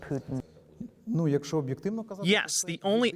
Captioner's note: speaking foreign language